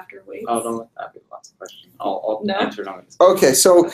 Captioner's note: man speaking off mic